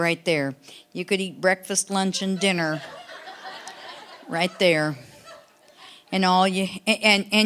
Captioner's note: audience laughing